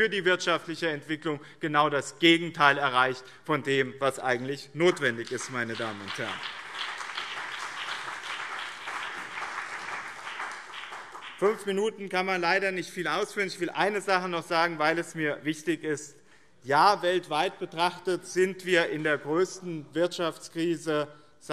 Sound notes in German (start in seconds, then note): 4.9 Beifall BÜNDNIS 90/DIE GRÜNEN und CDU